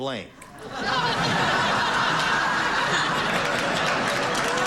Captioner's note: audience laughing